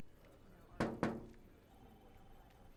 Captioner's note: knocking